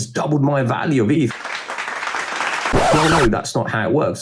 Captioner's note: people clapping